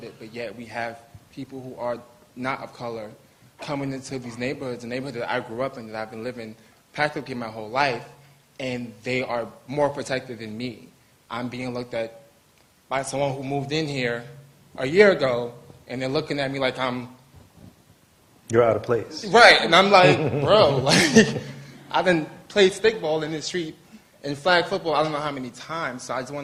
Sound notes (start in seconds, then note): 20.0 laughter